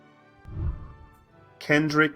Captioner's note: whooshing